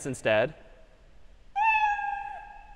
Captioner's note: meow